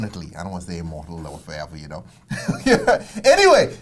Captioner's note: laughs